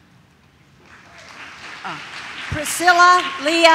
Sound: audience claps

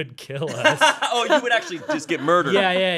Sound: laughing

